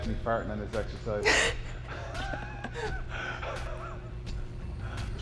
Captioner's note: Sol chuckles